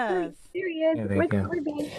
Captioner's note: background chattering